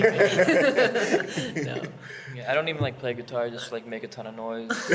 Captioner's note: laughs